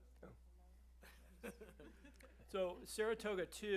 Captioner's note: laughter